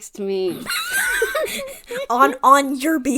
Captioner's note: laughing